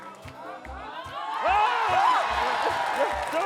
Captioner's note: cheering